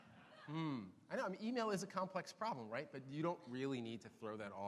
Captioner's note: none